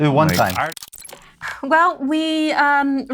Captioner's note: electronics chirping